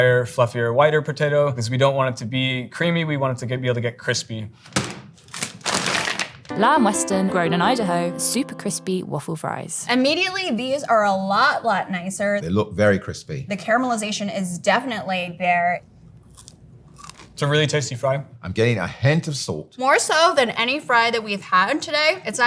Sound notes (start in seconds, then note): 4.6 fries pack thudding; 4.6 plastic crinkling